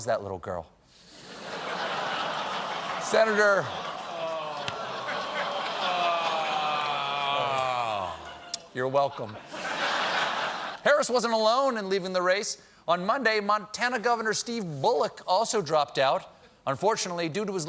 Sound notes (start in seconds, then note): 1.3 laughter; 8.8 laughter